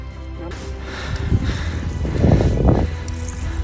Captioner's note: panting